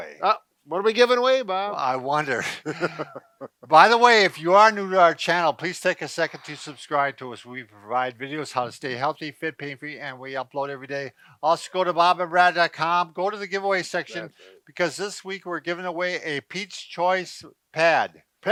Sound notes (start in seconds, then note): 2.0 laughs